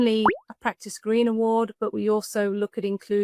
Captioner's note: graphic popping